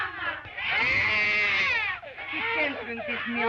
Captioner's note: women chanting slogan in Spanish; baby wails